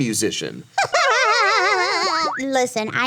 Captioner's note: Ironmouse laughs